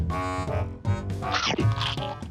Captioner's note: metallic crunching